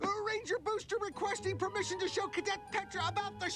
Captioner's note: none